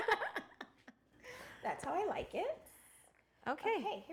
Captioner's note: laughing